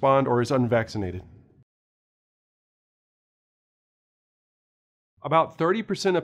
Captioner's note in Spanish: Sin audio